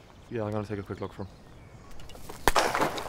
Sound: rifle fires in the distance

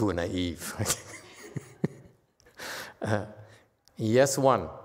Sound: laughs

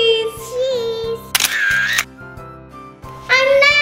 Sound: camera shutter clicks

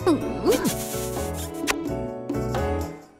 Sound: kisses

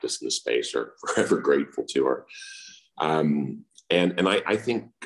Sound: laughs

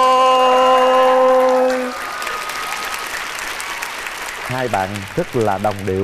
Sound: audience applause

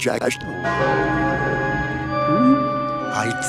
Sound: bell Chimes

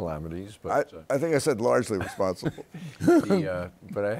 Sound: chuckles

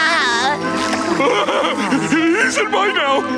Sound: laughing

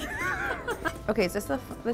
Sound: laughs

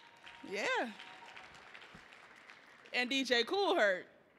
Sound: audience clapping

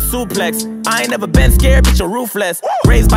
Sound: woo

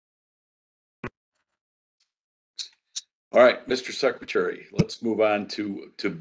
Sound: A pause

